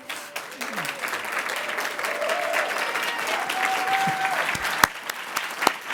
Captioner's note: audience applauding; audience cheering